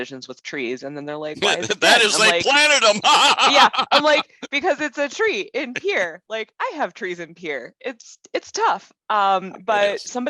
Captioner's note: laugh